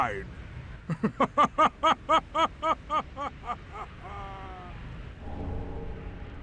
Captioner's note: laughing